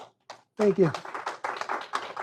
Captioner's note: applause